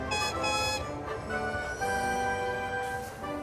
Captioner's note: neil whistles